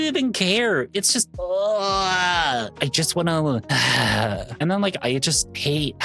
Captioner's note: groan